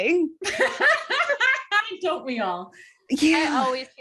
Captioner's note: laughter